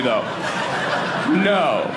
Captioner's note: audience laughing